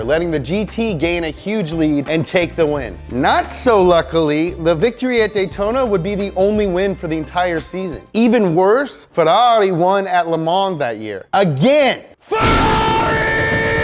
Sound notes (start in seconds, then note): 12.4 thunder booming